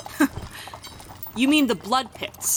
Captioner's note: chuckle